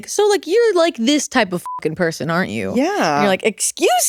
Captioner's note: beep